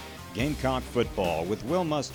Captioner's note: heavy electric guitar music; voiceover